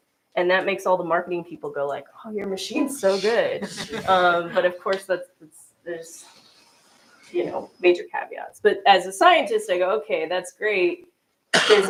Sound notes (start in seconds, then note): 3.6 laughter